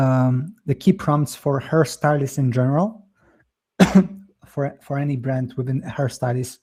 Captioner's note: coughs